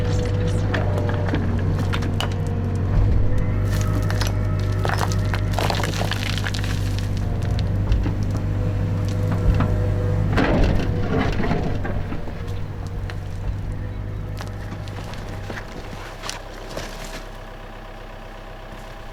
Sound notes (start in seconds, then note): 0.8 machine digging sounds; 14.8 birds singing